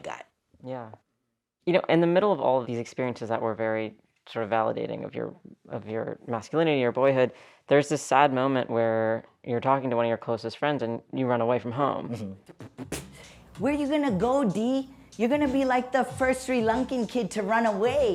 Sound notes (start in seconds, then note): 12.4 soundbite of archived recording